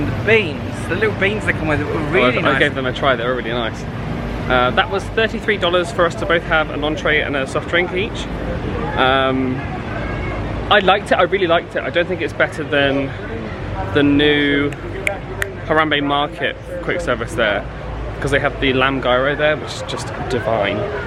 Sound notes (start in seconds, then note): 15.0 clicks fingers